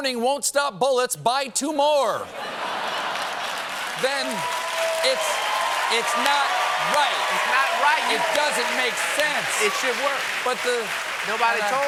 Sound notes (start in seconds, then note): 2.3 laughter; 5.8 applause